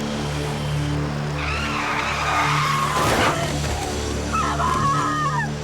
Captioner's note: brakes screech